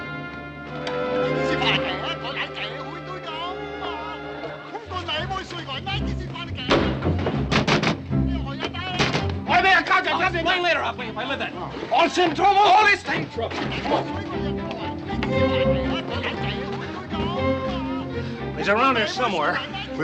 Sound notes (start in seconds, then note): 1.8 man shouts in Chinese; 7.5 shouting in Chinese